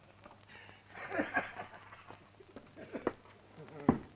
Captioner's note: laughs